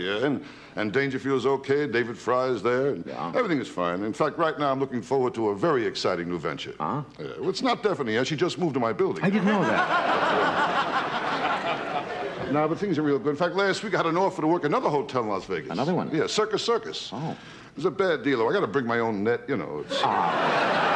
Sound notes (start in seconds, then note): 10.8 audience laughter